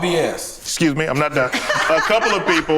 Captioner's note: group laughs